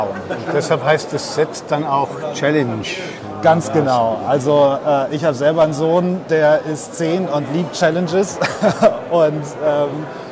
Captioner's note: laughs